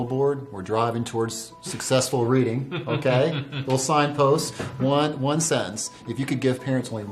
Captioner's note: laughter